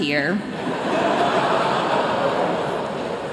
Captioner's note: laughter